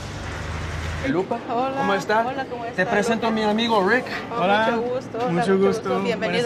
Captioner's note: speaking in foreign language